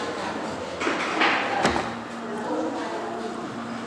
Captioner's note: voices in the background